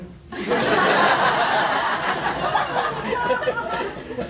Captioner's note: laughter